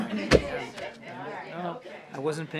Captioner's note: laughter